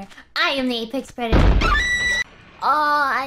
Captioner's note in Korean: 상어 비명